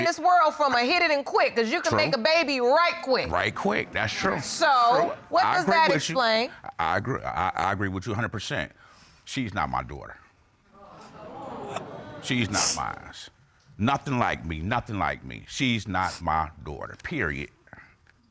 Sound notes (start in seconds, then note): 10.8 audience exclaims; 12.1 sniffling